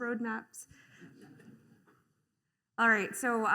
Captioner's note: laughter